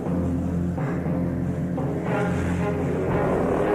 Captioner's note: growling